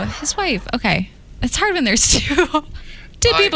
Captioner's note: giggles